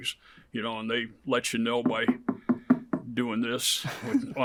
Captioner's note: knocking; interviewer chuckles